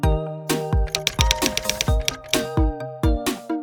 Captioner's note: typewriter tapping